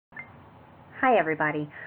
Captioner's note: beep